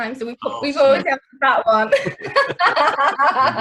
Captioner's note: laughing